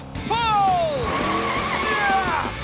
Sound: grunting

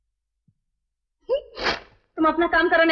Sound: chuckles

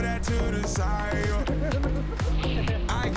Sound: laughs

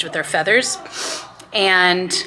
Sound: person sniffles

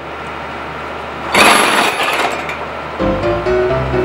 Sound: machine noises

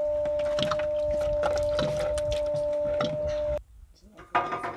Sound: hydraulic fluid draining noise

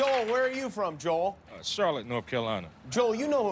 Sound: laughter and applause

